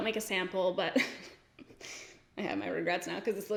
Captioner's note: giggles